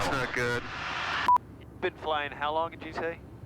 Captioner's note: beep